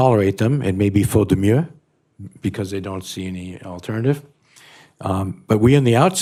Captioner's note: non-english